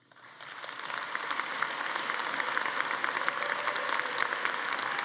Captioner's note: audience applauding